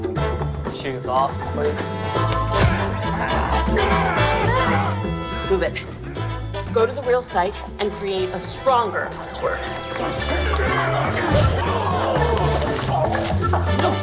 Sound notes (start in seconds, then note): 2.4 men growling; 11.1 men groaning